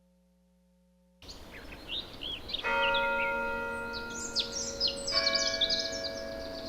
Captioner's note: birds chirping; bell dinging